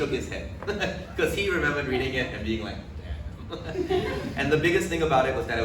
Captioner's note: laughs; laughs